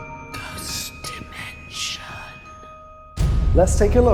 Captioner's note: ghostly Whispers